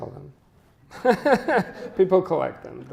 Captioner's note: chuckles